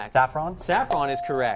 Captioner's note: ding